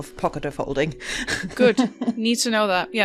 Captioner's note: laughs